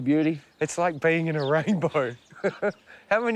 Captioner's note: laughs